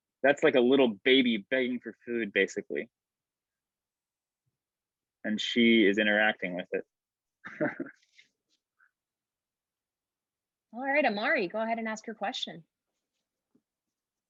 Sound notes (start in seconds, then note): 7.5 laughing